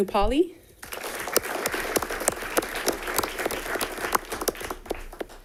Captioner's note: audience applauding